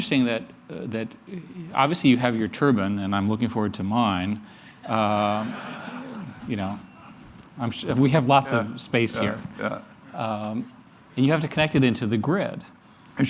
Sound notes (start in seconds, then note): 6.0 laughter